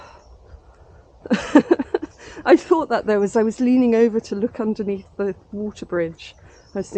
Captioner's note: laughing